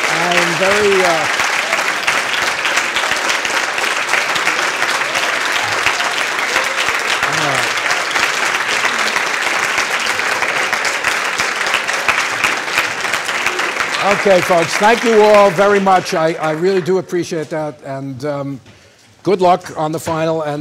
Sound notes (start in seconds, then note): 0.0 applause and cheering; 2.0 applause